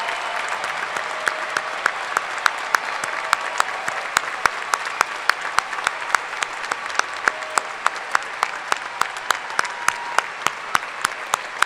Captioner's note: cheers and applause